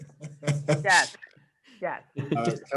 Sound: chuckling

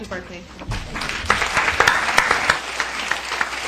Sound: applause

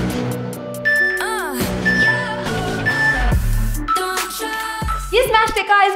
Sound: timer beeping

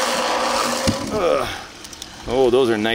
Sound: grunts

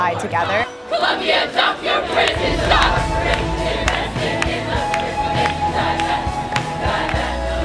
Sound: crowd chanting about divestment

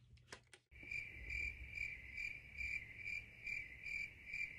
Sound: crickets chirp

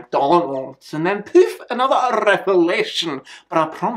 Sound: poof

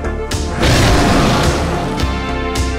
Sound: dragon breathing fire

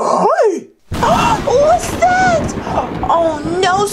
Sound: gasps

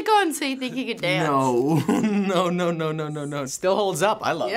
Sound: laughing

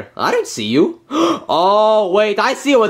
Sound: Luigi gasping

